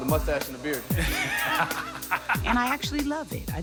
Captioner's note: laughs